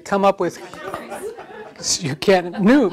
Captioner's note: audience laughter